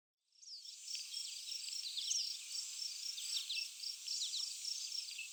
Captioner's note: insects chirping and buzzing